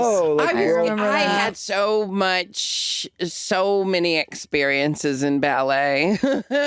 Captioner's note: chuckles